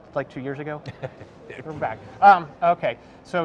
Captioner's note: laughs